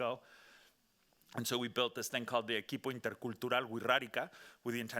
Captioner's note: speaking Spanish